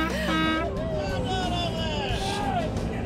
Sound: horns blaring; hollering

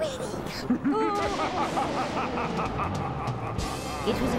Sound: thunder, demonic laughter

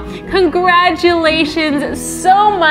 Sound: none

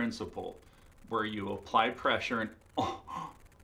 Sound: low gasp

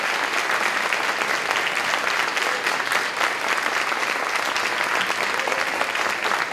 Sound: applause, cheering

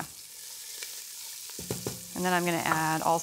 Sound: sizzling

